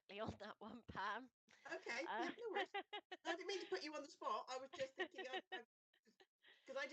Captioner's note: laaughter